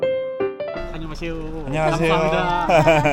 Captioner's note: in Korean